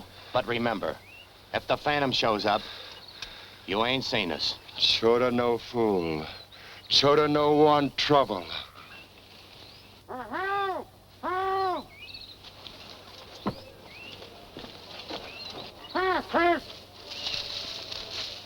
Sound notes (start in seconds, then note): 9.6 muffled shouting